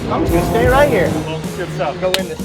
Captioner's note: hand slap